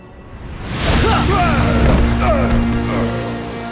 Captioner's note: groaning